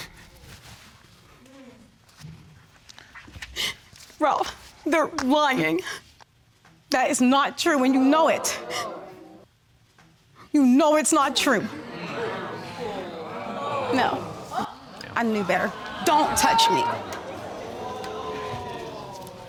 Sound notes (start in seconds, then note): 0.9 sobs